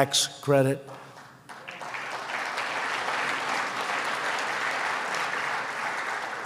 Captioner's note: applause